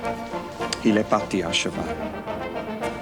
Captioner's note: John speaks French